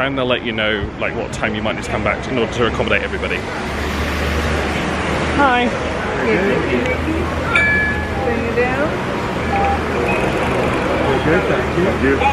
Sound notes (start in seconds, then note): 9.4 electronic beep